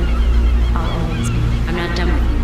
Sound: seagulls intensify

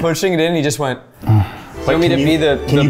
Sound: moan replay

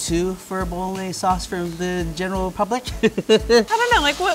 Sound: laughs

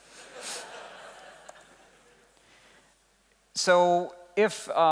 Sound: laughing

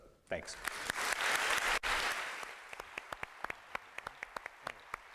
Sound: applause

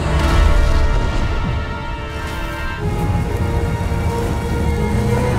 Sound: mountain explodes

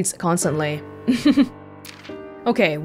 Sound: chuckles

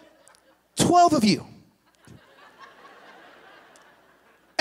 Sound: laughter

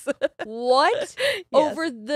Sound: laughing

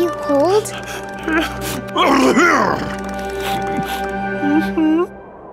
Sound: shivering and sneezing

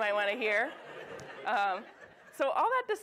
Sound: audience laughs

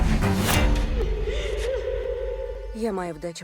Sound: dramatic string music continues; sobbing

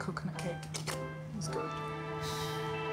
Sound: slurping; upbeat music

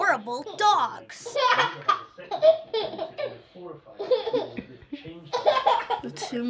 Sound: baby laughing

